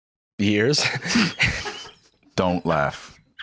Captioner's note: laughs